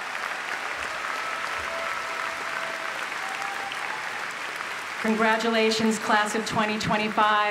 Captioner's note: applause